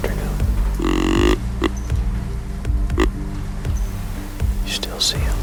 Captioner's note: horn blowing